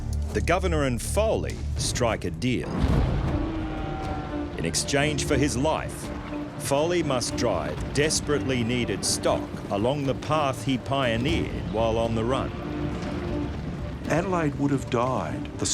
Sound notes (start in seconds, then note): 3.3 cows mooing